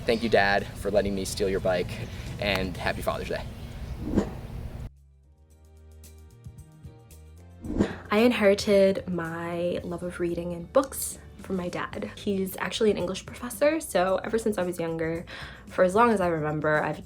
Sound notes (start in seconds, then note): 3.6 air whooshing; 5.7 soft pop music